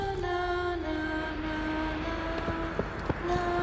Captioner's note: wind blows